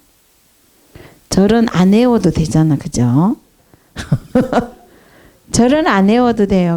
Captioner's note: hahah